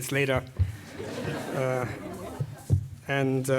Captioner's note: laugh